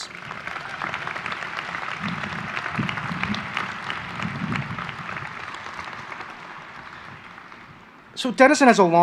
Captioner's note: applause